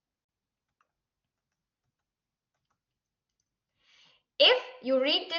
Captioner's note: silence